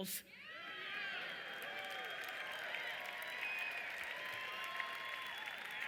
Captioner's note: audience screaming and cheering